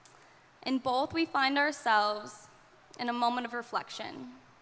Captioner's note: none